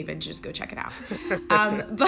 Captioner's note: laughter